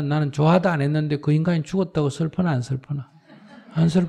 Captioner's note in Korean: 청중 웃음